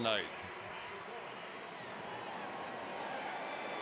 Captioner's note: crowd cheering